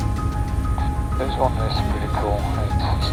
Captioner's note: voiceover